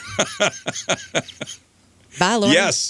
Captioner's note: laughter